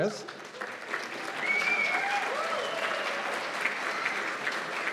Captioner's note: cheers and applause